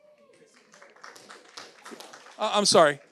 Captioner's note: audience applauds